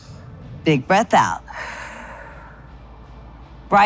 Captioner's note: exhales